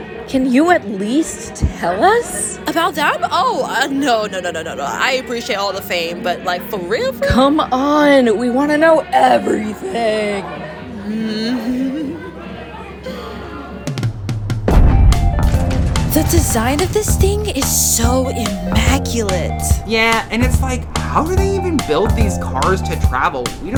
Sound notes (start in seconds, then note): 10.6 Bailey nervously chuckles; 13.9 rumbling footstep